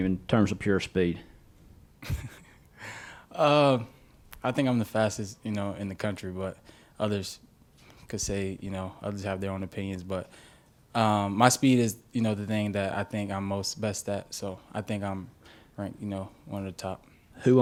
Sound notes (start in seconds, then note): 2.0 laughs